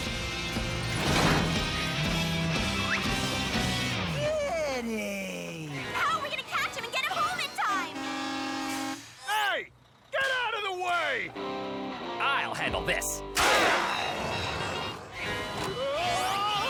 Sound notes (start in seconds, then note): 6.2 truck honks; 12.6 growling viciously